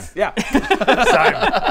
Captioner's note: uncaring laughter